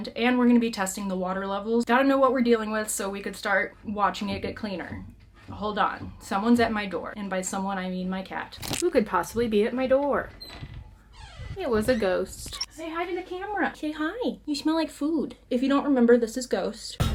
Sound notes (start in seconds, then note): 5.5 knocking at door